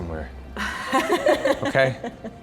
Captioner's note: laughing